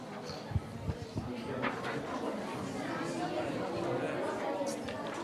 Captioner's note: people chattering